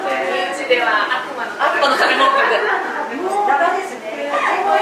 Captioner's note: laughs